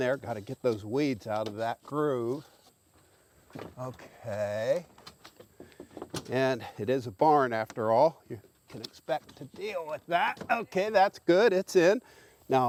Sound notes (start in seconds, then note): none